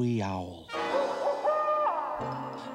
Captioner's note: hooting